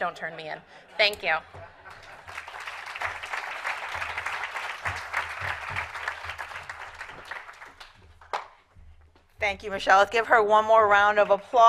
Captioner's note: applause